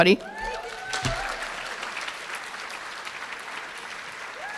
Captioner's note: applause